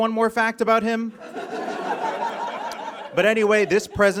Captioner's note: audience laughs